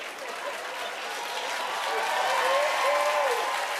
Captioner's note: cheers and applause